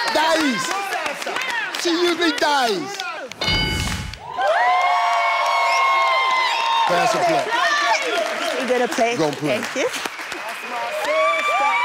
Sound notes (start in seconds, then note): 2.0 speaks in patois or foreign language; 3.4 dings; 3.8 audience cheers